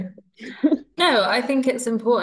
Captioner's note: laughs